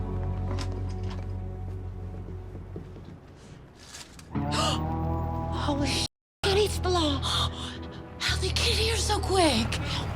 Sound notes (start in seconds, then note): 4.5 gasps